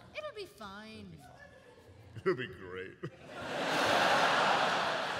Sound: laughs

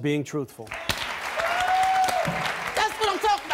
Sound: applauding

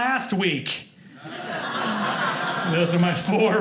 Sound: audience laughing

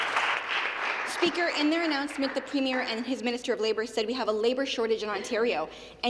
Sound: some Applause

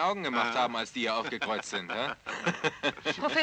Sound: laughs

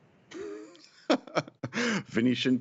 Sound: laughter

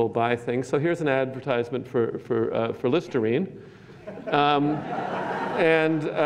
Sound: laughter

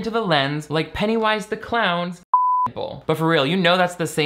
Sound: beep

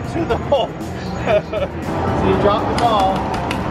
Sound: laughing

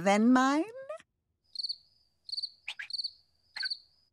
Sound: crickets chirping

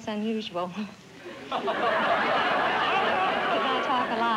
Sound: laughter

